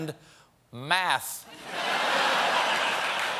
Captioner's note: laughter; applause